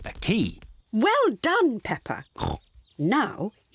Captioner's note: oinks